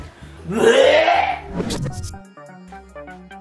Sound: retches

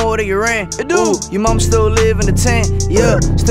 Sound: brr

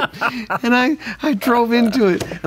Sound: laughs

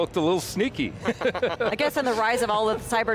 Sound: laughing

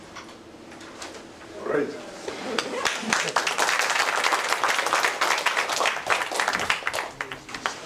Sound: applause

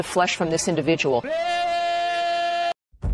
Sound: shouting

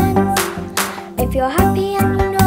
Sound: clapping

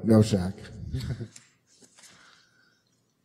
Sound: chuckles

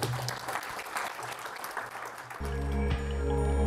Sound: audience clapping; upbeat music

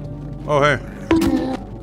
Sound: bonk.m4a

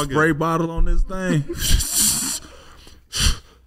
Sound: scoffs

